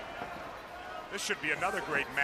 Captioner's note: crowd chatter